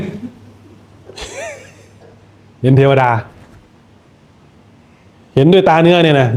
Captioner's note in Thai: เสียงหัวเราะ